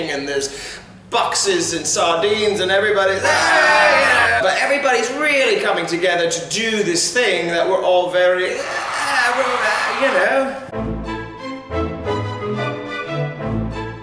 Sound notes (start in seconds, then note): 3.2 audience booing; 8.4 audience cheering; 10.8 bouncy strings music